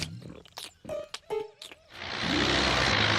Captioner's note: tractor engine running